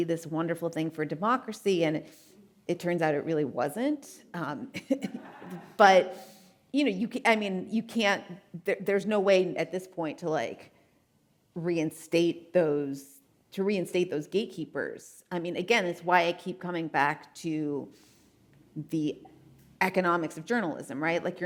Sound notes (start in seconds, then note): 4.7 chuckles; 5.1 audience laughing